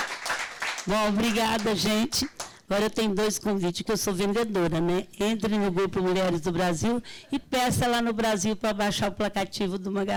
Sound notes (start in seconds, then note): 1.1 speaking Portuguese